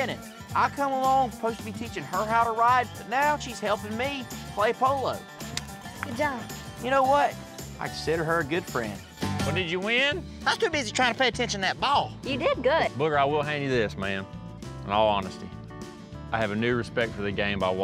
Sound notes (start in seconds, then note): 5.4 high-five clap